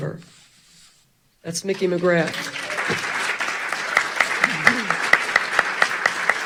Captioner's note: audience clapping